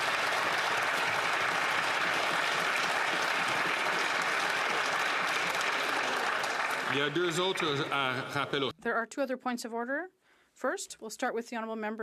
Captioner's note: applause